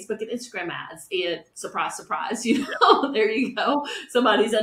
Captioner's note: chuckles